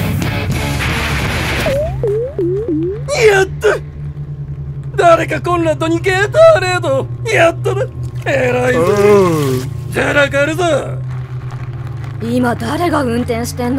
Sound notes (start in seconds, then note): 1.2 bouncy squeaks; 4.4 clap!